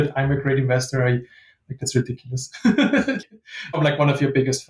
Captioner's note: laughing